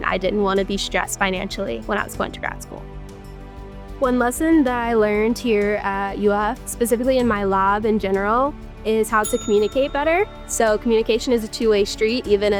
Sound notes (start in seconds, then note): 9.2 ding